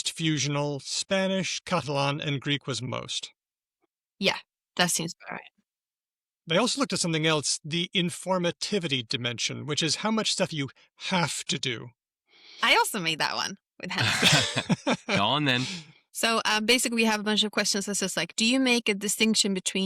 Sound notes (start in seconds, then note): 13.9 laughter